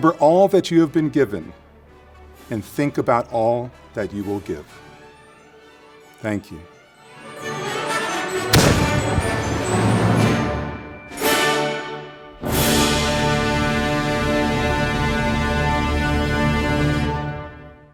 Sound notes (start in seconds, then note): 10.3 cannon fires